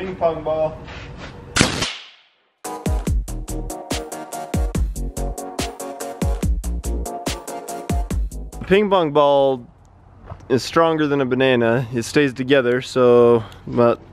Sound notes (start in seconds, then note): 1.6 shoots air cannon; 2.6 upbeat music